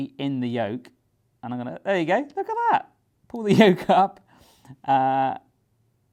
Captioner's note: laughs